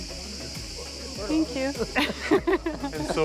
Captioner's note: chuckles